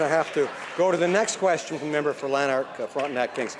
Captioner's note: some Applause